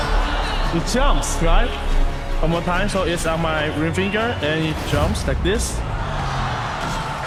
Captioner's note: cheering